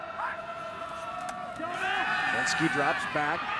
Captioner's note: spectators cheering